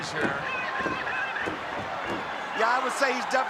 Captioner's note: fists pounding